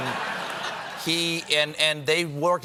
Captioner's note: laughter